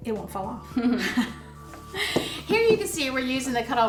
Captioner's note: chuckles